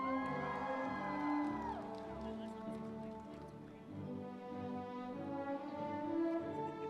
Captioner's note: audience cheering; triumphant music